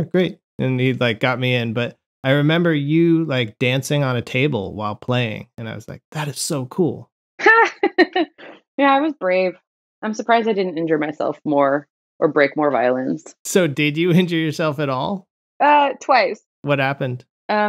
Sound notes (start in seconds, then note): 7.4 laughter